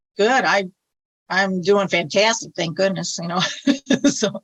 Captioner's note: laughs